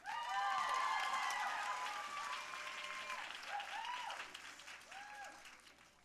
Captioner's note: audience cheering and applauding